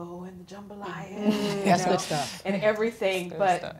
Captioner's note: voiceover